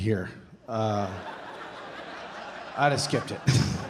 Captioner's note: audience laughing